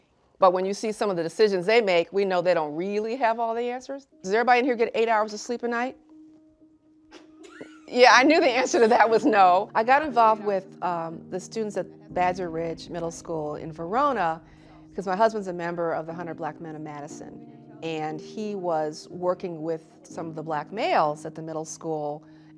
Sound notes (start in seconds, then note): 7.2 students chuckling